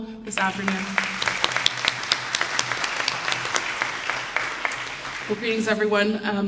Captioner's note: applause